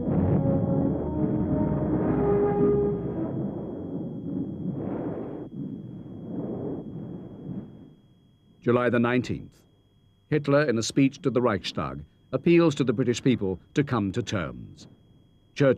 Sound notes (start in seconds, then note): 0.0 explosions